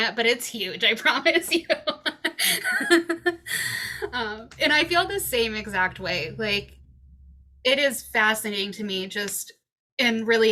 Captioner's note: laughs